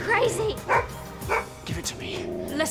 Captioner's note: dog barks